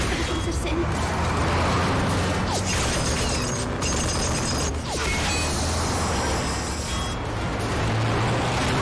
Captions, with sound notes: Be our defense against the forces of sin. (GUNFIRE CONTINUES) (HISSING)